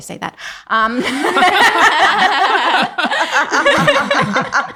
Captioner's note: everyone laughing